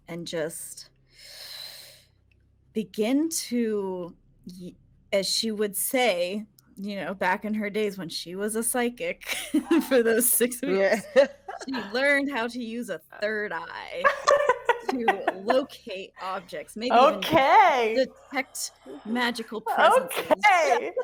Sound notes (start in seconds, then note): 10.8 people giggling; 14.0 people laughing; 20.0 people laughing